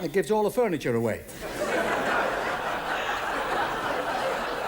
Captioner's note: audience laughs